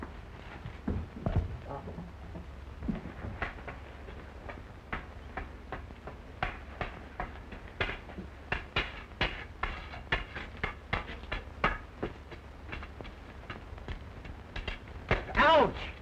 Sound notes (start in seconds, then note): 2.4 tapping